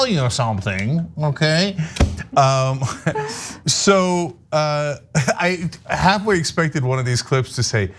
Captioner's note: laugh